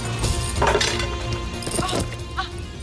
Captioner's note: clanging